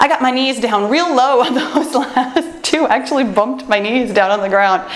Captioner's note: laughs